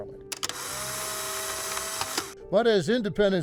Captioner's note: camera snapping